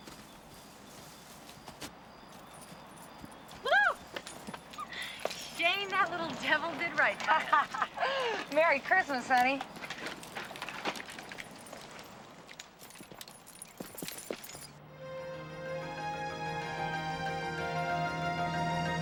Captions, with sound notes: - Whoo, Shane, that little devil did right. (ladies laughing) - Merry Christmas honey. (dramatic music)